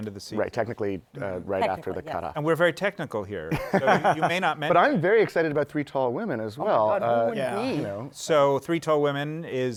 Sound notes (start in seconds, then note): 3.5 laughter